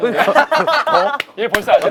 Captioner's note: laughing